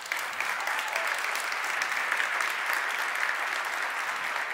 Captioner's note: audience applauds